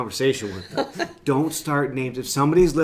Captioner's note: laughing